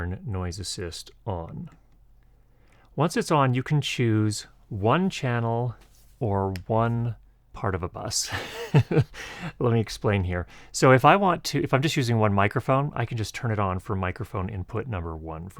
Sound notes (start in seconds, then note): 8.3 laughs